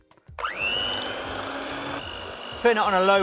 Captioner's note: electronic mixer whirling